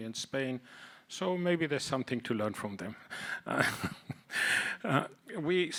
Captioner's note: chuckles